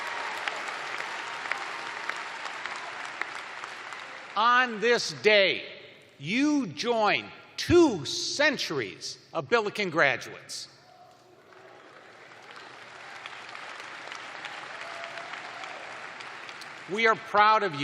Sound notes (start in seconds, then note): 0.0 cheers and applause; 7.9 cheering; 11.4 applause